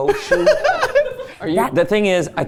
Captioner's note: laughing